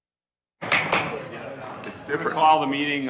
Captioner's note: gavel bangs